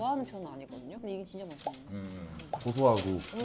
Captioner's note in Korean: 부스럭부스럭